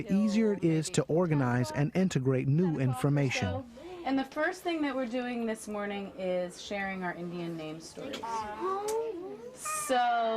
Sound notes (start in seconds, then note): 0.0 voiceover; 4.3 voiceover